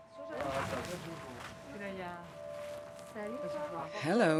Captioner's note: talking in background